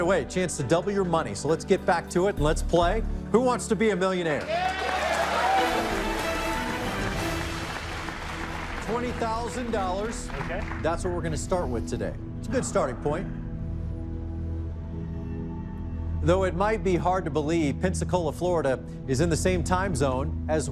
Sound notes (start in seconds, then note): 4.3 cheers and applause; 7.3 dramatic musical flourish